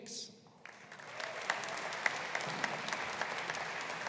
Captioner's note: audience applauding